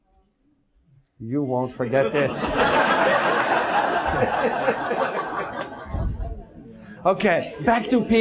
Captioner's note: audience laughs